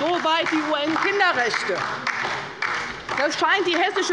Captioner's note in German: Beifall bei der LINKEN